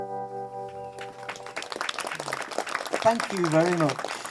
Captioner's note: audience applause